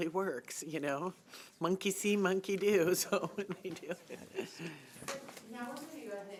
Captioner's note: chuckling